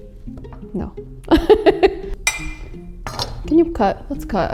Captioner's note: laughs